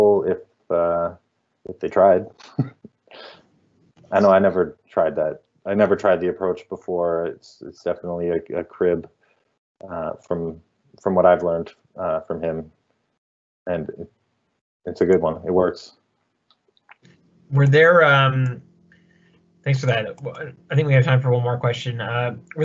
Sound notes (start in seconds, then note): 2.4 chuckling